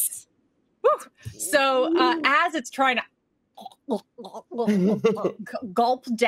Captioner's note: imitates swallowing